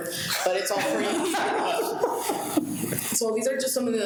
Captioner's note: people laughing